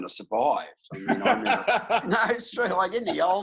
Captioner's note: laughing